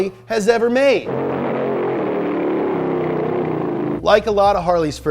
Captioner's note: engine revving